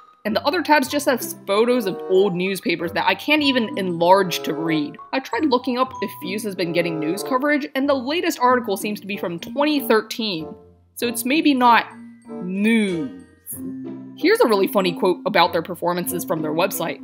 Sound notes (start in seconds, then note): none